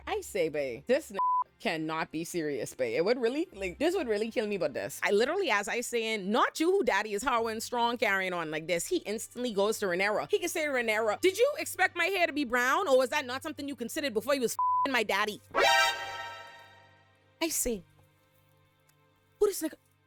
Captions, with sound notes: I say, babe, this (beep) cannot be serious, babe. It would really, like, this would really kill me about this. I literally, as I say, not you, who daddy is howling strong carrying on like this. He instantly goes to Rhaenyra. He can say Rhaenyra, did you expect my hair to be brown? Or was that not something you considered before you was (beep) my daddy? (bell rings) I say, who the second?